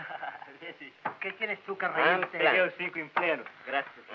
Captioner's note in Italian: lingua spagnola